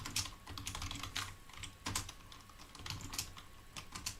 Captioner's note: keyboard clicking